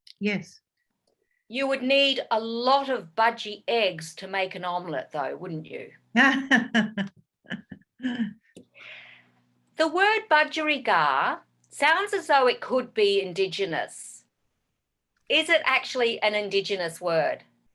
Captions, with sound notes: - Yes. - You would need a lot of budgie eggs to make an omelet though, wouldn't you? - (laughs) - The word budgerigar sounds as though it could be indigenous, is it actually an indigenous word?